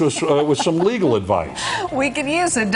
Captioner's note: laughing